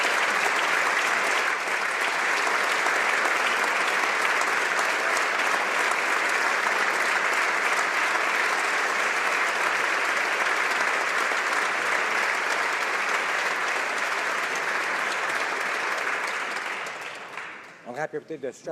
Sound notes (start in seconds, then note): 3.4 applause